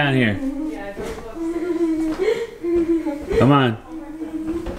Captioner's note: laughing